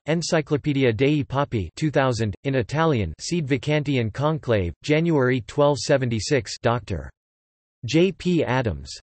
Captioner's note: in Italian